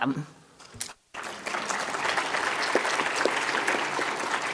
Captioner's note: applause